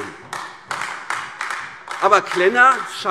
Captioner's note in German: Beifall AfD